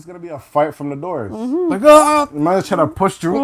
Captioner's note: screaming